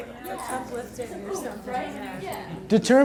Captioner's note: voiceover